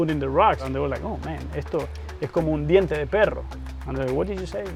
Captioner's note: non-english speech